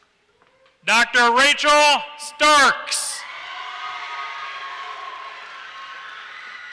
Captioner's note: applause